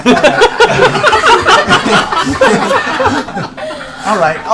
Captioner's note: laughter